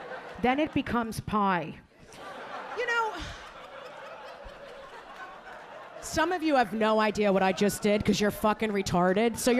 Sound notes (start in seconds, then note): 2.0 audience laughing